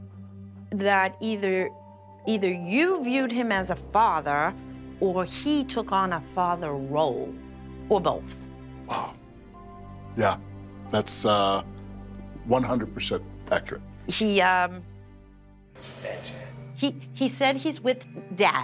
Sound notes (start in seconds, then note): 15.0 speaks distortedly